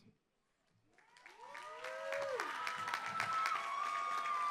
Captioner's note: applause